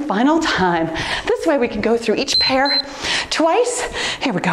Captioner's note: timer beeps